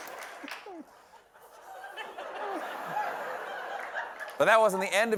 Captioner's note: laughter